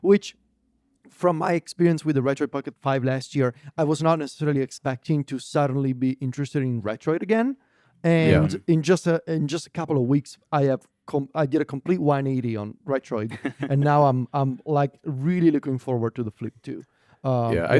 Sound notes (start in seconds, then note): 13.4 laughs